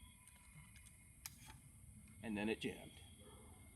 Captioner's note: none